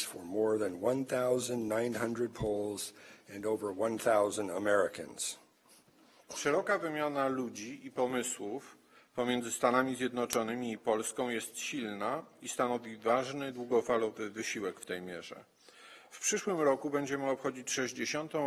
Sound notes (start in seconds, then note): 7.1 speaking polish